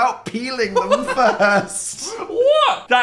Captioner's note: Phil laughing